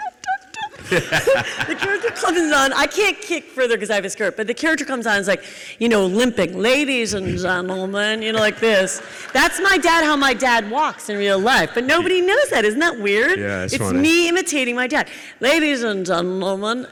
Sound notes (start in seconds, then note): 0.0 laughing; 0.6 excited squealing; 7.1 elderly voice